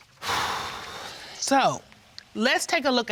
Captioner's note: exhales deeply